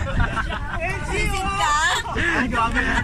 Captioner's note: laughs